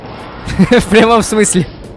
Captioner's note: giggles